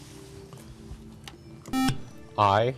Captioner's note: beep